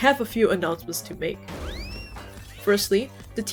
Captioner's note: obliterates podium sfx